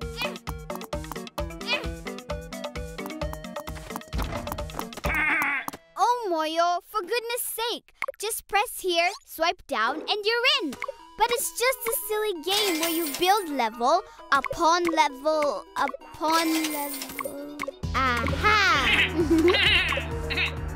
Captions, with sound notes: (angry grumbling) Oh, Moyo, for goodness sake! Just press here, swipe down, and you're in! But it's just a silly game where you build level, upon level, upon level... Ah-ha! (bleating)